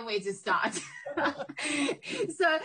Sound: laughs

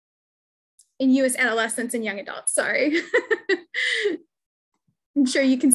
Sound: laughs

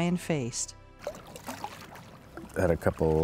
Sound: splashing

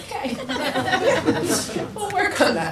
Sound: people laugh

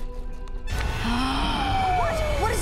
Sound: gasping

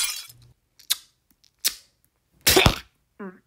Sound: Masticando

